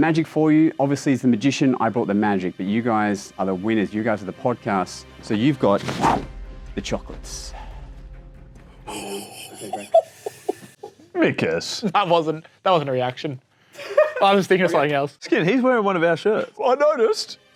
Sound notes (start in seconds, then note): 8.8 giggling